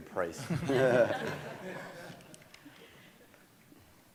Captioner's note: audience laughing